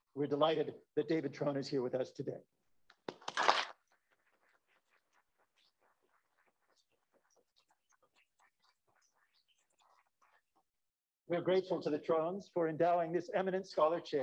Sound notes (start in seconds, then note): 2.6 applause